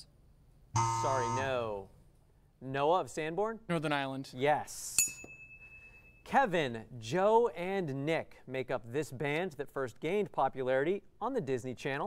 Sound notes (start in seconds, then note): 0.7 error buzzer; 5.0 ding